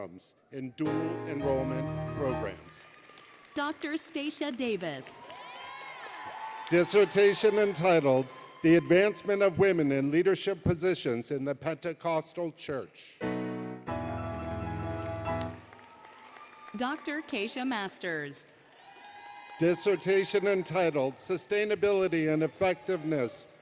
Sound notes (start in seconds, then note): 2.9 applause; 5.4 applause, Cheering; 13.9 music, Cheering; 18.5 cheering, Applause